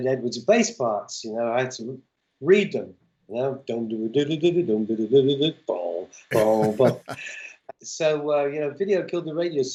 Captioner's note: laughter